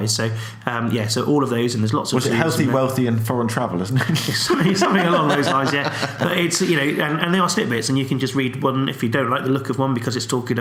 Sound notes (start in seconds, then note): 4.0 laughs